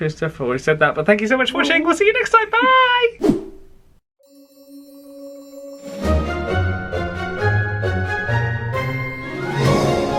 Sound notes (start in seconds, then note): 3.2 black screen whooshes; 4.2 whimsical music